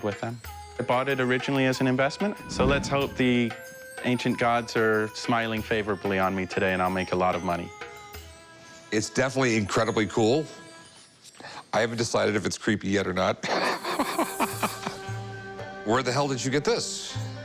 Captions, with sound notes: I BOUGHT IT ORIGINALLY AS AN INVESTMENT, SO LET'S HOPE THE ANCIENT GODS ARE SMILING FAVORABLY ON ME TODAY AND I'LL MAKE A LOT OF MONEY. - IT'S DEFINITELY INCREDIBLY COOL. I HAVEN'T DECIDED IF IT'S CREEPY YET OR NOT. [laughs] WHERE THE HELL DID YOU GET THIS?